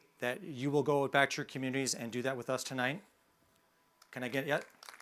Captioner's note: sounds of applause